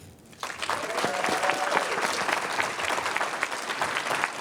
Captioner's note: applause